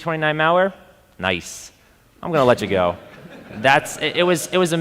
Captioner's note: audience laughing